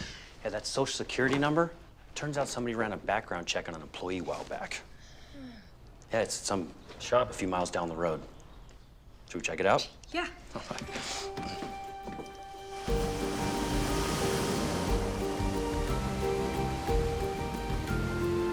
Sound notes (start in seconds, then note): 14.5 waves crashing